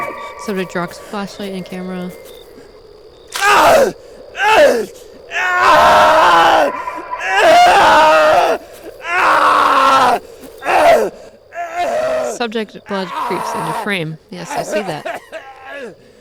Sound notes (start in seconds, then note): 3.4 Wendigo sounds, Man crying in pain